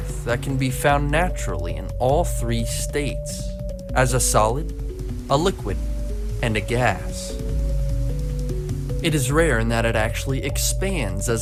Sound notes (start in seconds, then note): 7.1 water sloshing